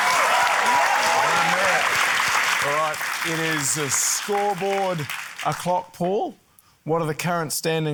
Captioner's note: cheering, applause